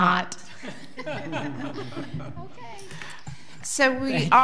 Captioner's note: audience laughing